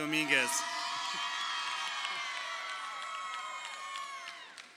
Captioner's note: crowd cheering